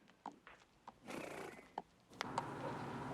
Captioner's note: nickers